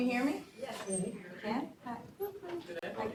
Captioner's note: audience muttering